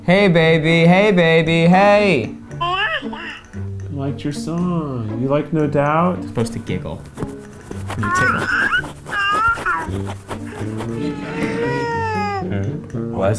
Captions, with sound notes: - I don't want it. - Hey baby, hey baby, hey. (baby coos) - It liked your song. You like No Doubt? - It's supposed to giggle. (baby cries)